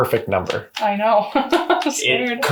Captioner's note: laughs